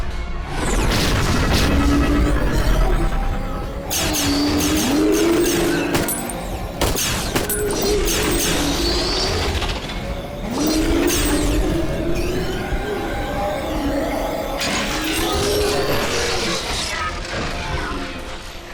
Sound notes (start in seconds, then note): 6.8 gunfire